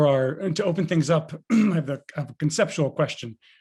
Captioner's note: clears throat